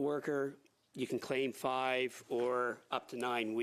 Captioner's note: speaking French